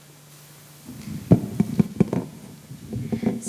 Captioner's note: mic noises